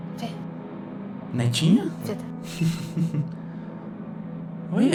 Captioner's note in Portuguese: risadinha